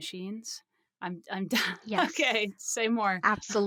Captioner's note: laughs